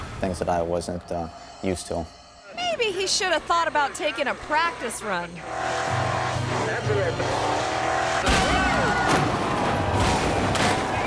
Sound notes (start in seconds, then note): 5.6 truck rumbling; 7.0 truck crashing